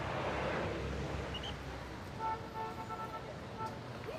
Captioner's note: whistle blows, car horn honking